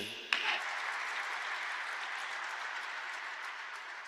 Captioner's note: audience applauding